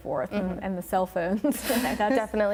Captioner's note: chuckles